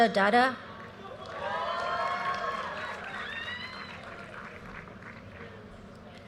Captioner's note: audience cheers and applause